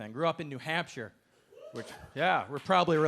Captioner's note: audience member cheering